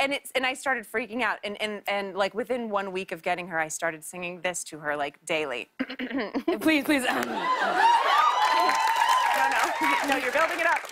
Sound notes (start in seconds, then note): 5.8 clears throat; 7.2 cheers and applause